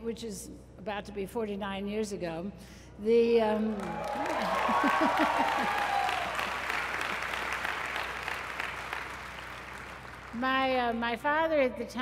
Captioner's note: applause